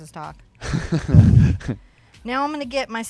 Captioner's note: laughs